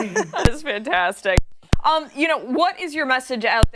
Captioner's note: laughter